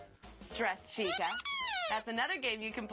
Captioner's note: squeaking